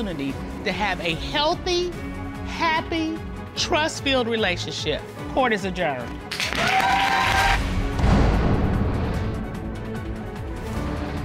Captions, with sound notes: to have a healthy, happy, trust-filled relationship. Court is adjourned. [audience applauds] [dramatic music playing]